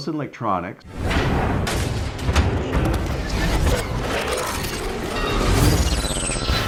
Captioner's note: dramatic banging and clicking